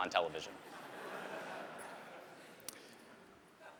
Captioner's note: laughter